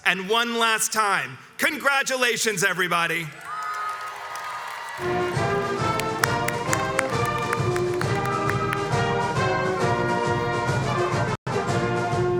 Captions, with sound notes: And one last time, congratulations everybody! (crowds cheers and applauds) (upbeat music plays)